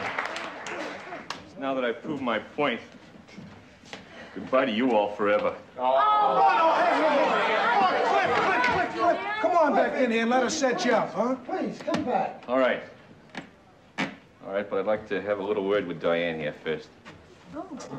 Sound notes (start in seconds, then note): 6.1 crowd mumbling